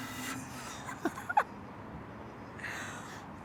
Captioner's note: laughing